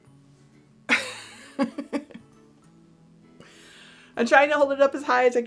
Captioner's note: chuckles